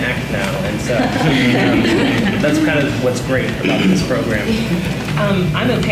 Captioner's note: laughs